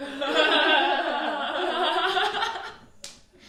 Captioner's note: more feminine laughter